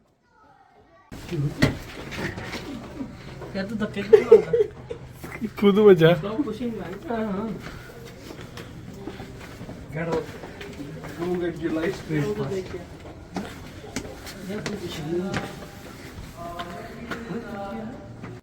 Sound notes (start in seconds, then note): 3.9 laughter